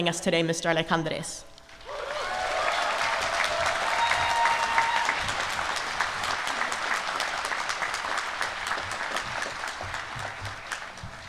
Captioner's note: applause